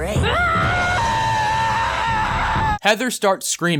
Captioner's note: HEATHER screams